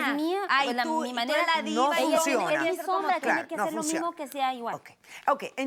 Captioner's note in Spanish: Hablan al unísono